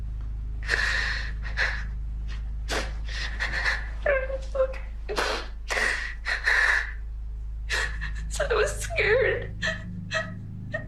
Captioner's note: crying